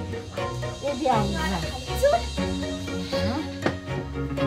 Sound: in Armenian

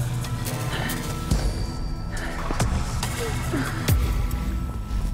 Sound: frantic breathing

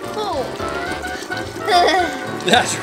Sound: laughing

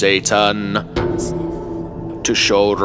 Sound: bell tolls

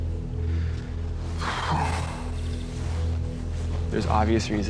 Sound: exhales sharply

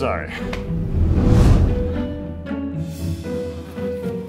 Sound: whooshing

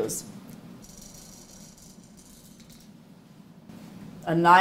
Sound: machine rattling

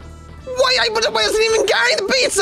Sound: speaking gibberish

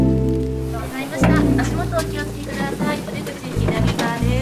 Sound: woman speaks in Japanese

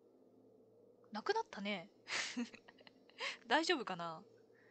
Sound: laughs

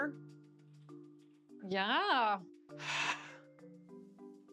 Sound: sighs

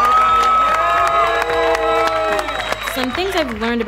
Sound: cheering

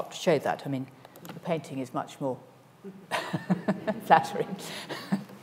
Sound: laughs

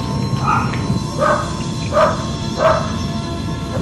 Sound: dog barking

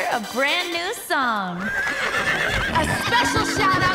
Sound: neighing

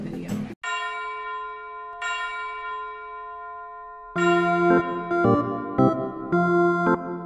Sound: bells ringing; playful music

